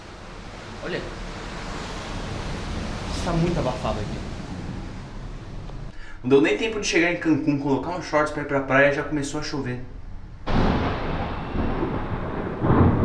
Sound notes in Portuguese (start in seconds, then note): 10.4 trovão